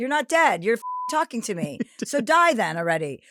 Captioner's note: beep